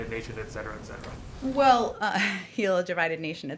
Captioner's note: laughs